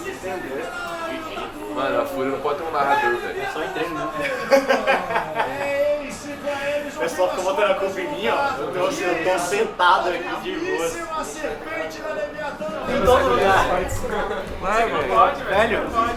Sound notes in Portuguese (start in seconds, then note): 4.1 risos